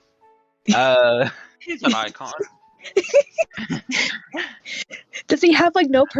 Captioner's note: laughs